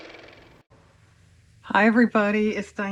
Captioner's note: car motor